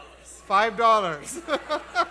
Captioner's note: laughs